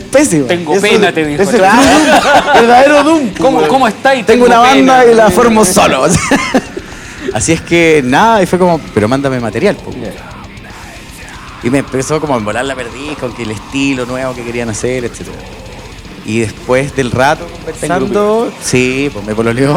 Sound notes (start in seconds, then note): 1.4 laughs